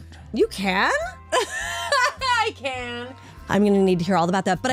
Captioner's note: laughter